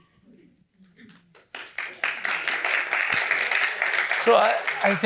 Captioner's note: applause